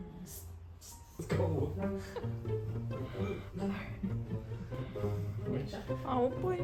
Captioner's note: covering mouth from laughter